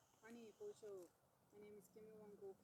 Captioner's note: speaks indigenous language